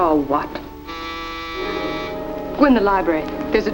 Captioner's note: doorbell rings